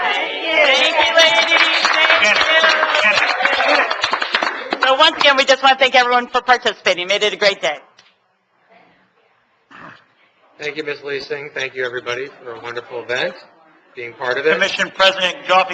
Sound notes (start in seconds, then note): 0.8 clapping